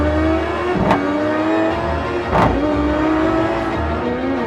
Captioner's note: car bumps